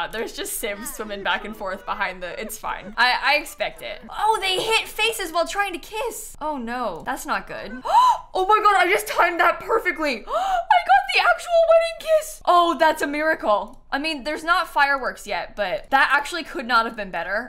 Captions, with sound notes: there's just Sims swimming back and forth behind the -- it's fine. I expect it. Oh, they hit faces while trying to kiss! Oh no, that's not good. [GASPS] Oh my god, I just timed that perfectly! I got the actual wedding kiss!! Oh, that's a miracle! I mean, there's not fireworks yet, but that actually could not have been better.